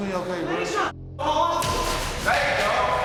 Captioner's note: yelling; slap